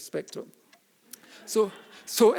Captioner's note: audience laughing